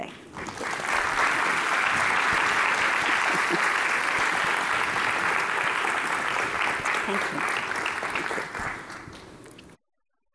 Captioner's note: applauding